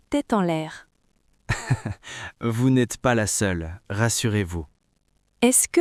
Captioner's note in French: rire